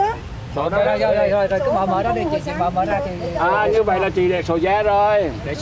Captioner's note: speaking in foreign language